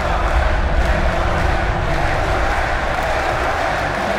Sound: crowd chanting

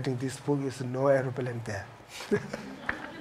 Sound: laughs

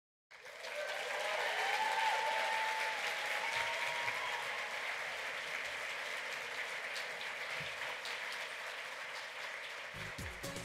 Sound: applause

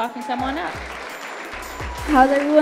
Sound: audience applauding

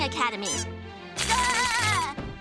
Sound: yelling; laughing

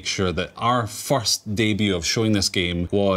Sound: none

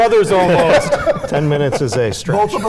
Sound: laughing

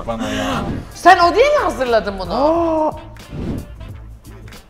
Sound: gasps

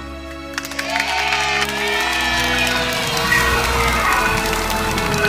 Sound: crowd cheering

